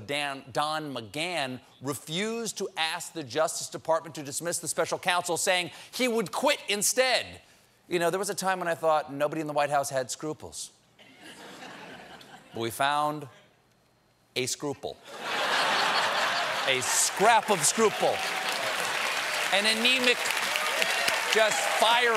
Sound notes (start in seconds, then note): 15.1 laughter; 16.0 applause